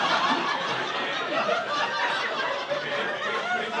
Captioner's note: audience laughing